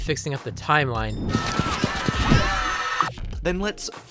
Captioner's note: screaming